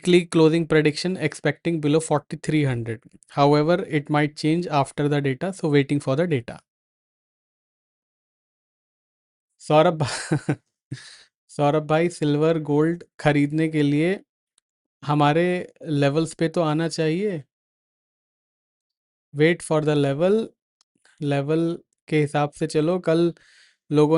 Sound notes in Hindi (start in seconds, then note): 10.0 हंसी